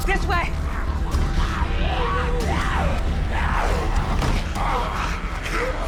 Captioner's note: growling